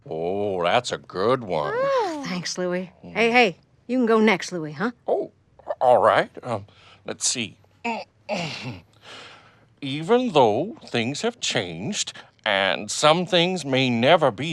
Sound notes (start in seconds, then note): 8.3 clears throat